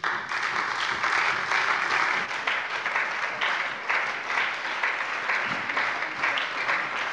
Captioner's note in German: Anhaltender lebhafter Beifall bei der SPD und der LINKEN